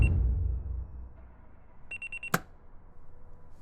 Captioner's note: alarm beeps